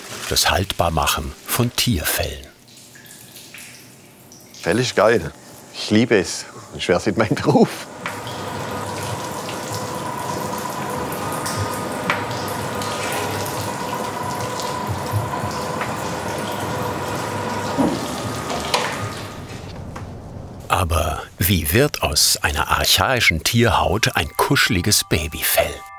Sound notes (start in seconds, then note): 2.6 splashing; 8.6 splashing, machine whirring